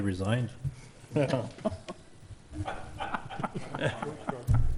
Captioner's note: all laugh